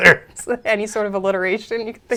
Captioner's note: laughs